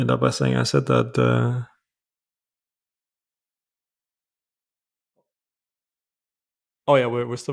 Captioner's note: silence